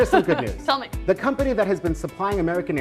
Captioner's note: laughs